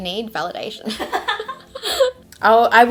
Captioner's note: laughter